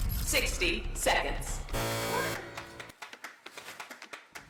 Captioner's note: buzzer